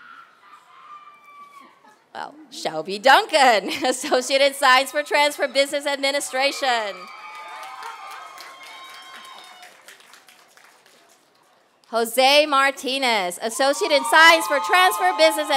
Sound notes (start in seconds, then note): 6.9 applause